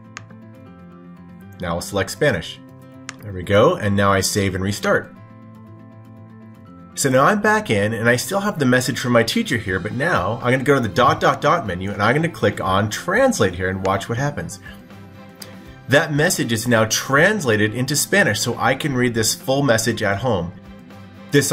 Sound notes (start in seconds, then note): 0.1 click; 3.0 click